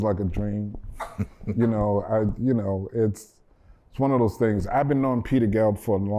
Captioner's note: laughter